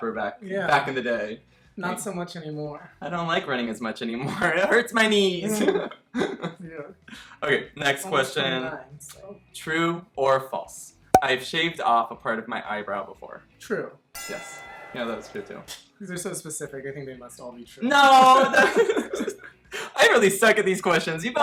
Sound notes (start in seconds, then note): 5.8 laughing; 18.2 both laughing